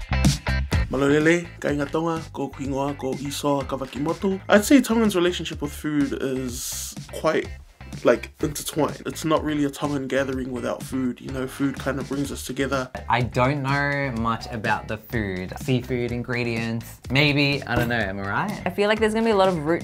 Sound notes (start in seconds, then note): 1.0 'Isoa speaking Tongan